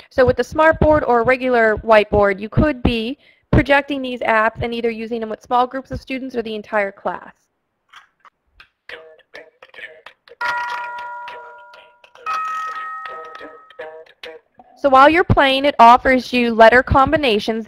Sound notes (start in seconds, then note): 10.3 upbeat music; 10.4 ringing bells